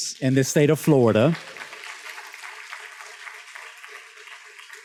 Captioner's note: students claps